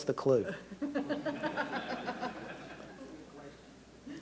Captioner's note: laughter